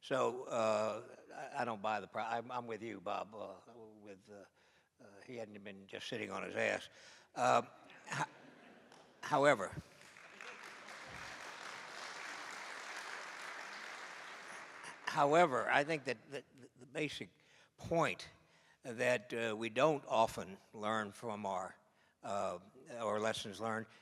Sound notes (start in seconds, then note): 8.0 laughter; 9.3 applause